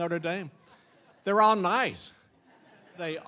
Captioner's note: audience laughing